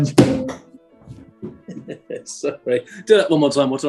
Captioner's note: chuckling